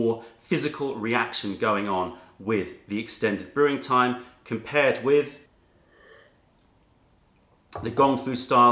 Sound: sips tea

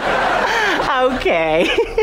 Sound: chuckles

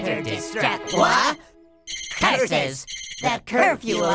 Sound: alarm ringing

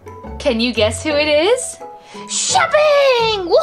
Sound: voiceover

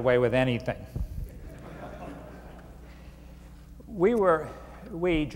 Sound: laughter

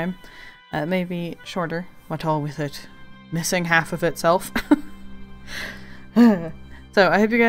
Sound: laughs... sighs

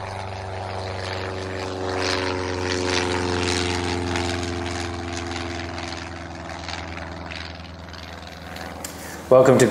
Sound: airplane taking off

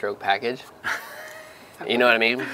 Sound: laughter

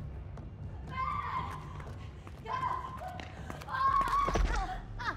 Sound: eerie music; woman screams; woman cries

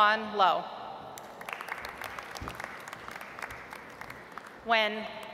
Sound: audience applauds

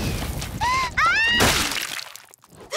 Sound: exploding; screaming; gasping

